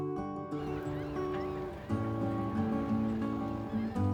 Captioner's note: seagulls cawing